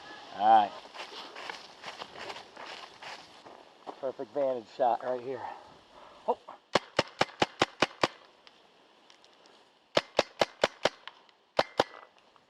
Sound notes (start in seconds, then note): 6.7 paintball gun shooting